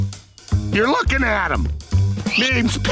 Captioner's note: none